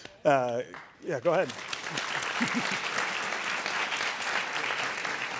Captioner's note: audience applauding